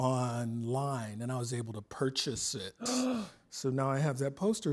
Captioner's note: gasps